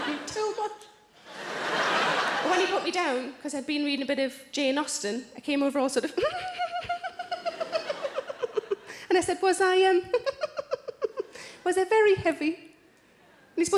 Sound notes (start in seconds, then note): 0.0 audience laughs; 6.2 giggles